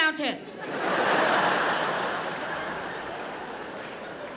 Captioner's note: audience laughs